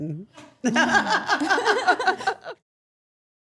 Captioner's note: all laughing